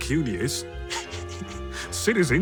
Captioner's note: chuckles